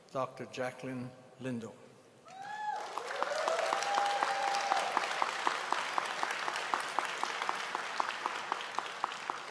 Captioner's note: applause